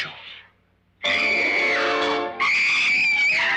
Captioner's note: screaming